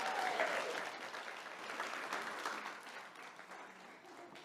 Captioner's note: clapping